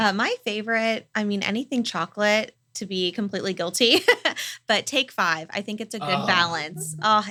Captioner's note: laugh